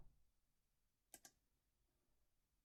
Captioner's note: click